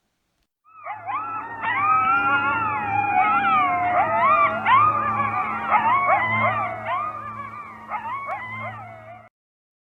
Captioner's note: coyote howling